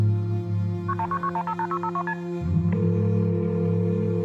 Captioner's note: dialing